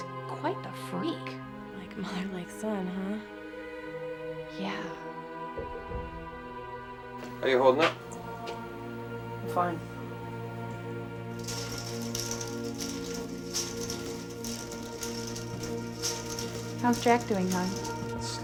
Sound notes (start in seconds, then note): 5.4 tense music; 11.2 bead curtain clatters